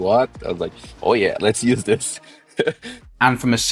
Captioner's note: laughter